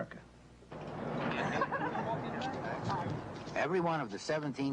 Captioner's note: laughs, indistinct chatter